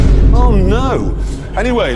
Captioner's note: Vine Boom x3